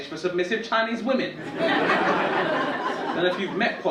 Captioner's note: audience laughing